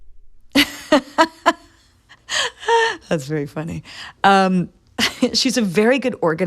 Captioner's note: laughter